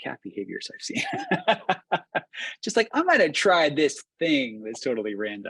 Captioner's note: laughs